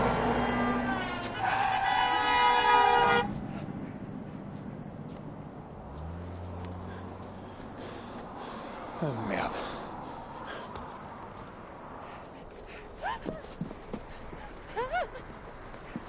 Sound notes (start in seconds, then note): 0.0 cars honking; 2.3 brakes squeaIing; 2.3 car honking